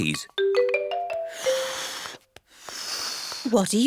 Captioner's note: failed whistle